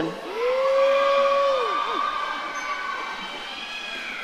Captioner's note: audience cheering